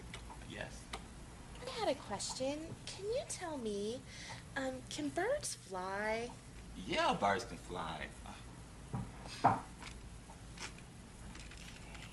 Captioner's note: typing